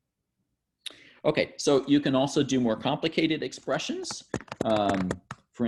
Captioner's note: typing